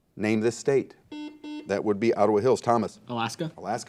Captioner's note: buzzer